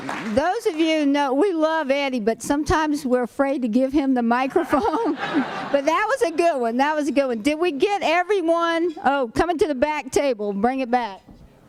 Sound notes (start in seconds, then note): 0.0 applause; 4.5 laughter